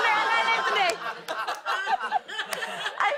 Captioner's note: laughter